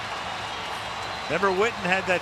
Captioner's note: cheering